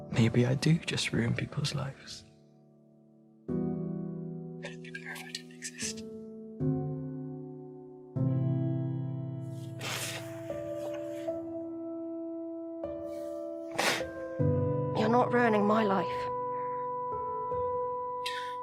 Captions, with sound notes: maybe I do just ruin people's lives. And it'd be better if I didn't exist. (Charlie sobbing) (mellow music) - You're not ruining my life.